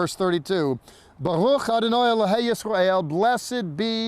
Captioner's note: speaking in Hebrew